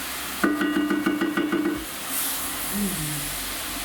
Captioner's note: pot banging